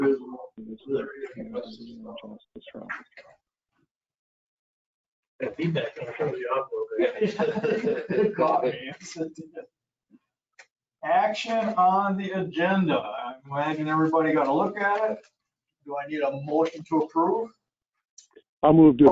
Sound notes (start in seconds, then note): 8.1 laughing together